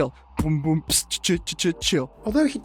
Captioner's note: beatboxing